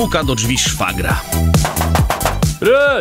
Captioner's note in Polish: puk puk puk puk puk